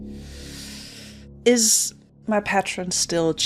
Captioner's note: deep breath